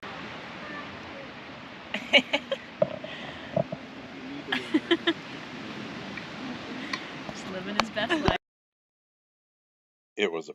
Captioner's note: woman laughing